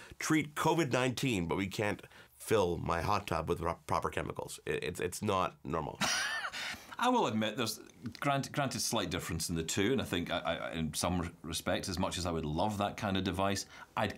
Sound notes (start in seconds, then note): 6.0 chuckles